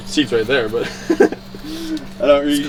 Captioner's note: laughs